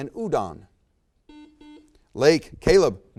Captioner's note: buzzer beeps